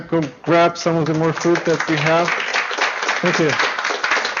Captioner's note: applause